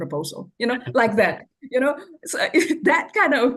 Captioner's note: laughs